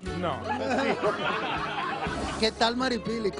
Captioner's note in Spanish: risas